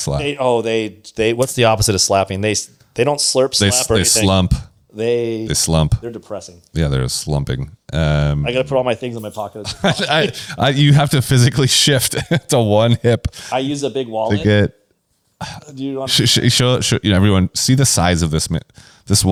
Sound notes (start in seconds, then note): 9.4 laughs